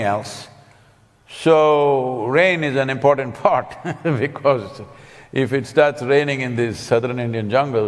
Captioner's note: laughs